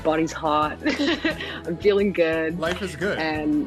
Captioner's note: laughter